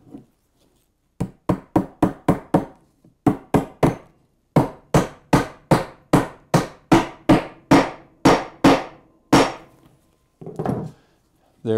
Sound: hammering

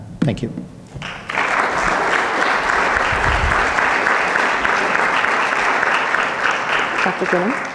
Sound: audience clapping

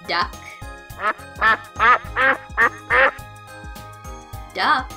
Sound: duck quacking

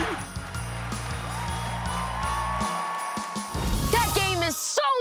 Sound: cheering

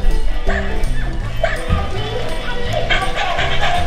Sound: dog barking; dog panting

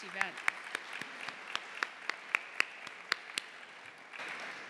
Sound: applause

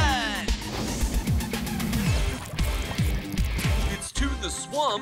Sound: lava running down noise

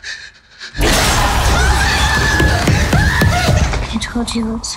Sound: screaming

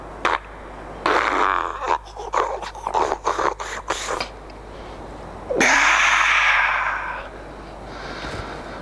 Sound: suckling noises followed by refreshed gasp

